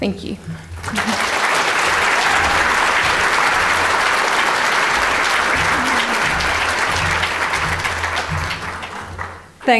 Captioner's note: audience applause